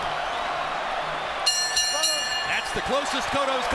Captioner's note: bell rings